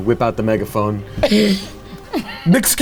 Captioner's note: woman wheezes